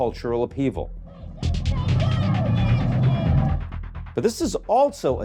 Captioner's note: person shouting